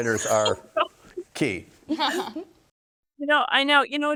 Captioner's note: laughs